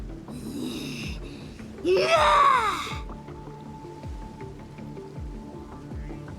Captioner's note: groaning